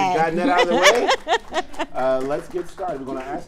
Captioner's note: laughing